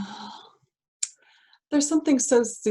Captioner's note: sigh